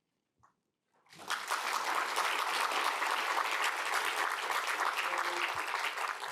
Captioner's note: applause